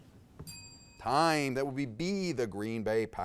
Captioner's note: bell dings